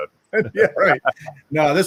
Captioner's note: laughing